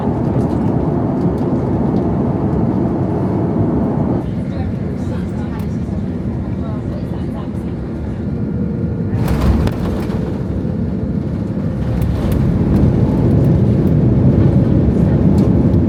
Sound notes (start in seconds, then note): 0.1 air whooshing; 0.1 engines roaring; 4.3 air whooshing; 4.3 passengers chattering; 9.1 air whooshing; 9.2 plane thumps; 10.6 engines roaring